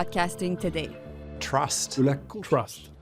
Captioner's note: French